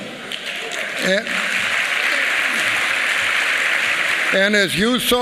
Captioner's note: applause